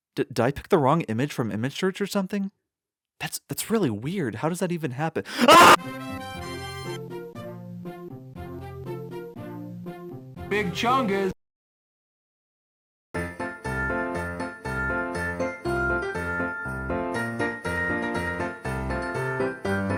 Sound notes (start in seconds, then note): 5.3 screaming; 5.7 victory fanfare